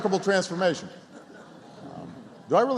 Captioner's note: laughter and applause